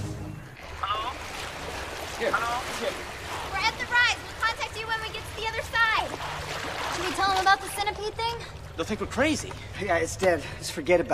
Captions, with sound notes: - [radio] Hello, hello? - It's here. We're at the rise, we'll contact you when we get to the other side. Should we tell them about the centipede thing? They'll think we're crazy! Hey guys, it's dead. Let's forget about it.